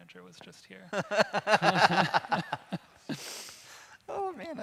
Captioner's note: laughing